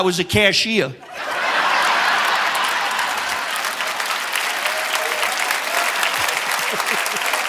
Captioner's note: audience laughing; audience applauding